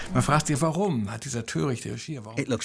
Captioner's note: speaking German